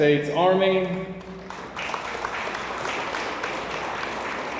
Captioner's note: audience applauds